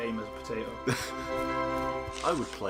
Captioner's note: NinjaFish laughs